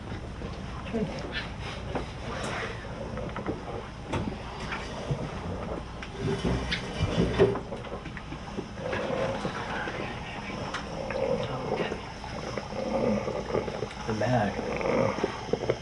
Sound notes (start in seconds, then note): 8.3 ragged, Wet Breathing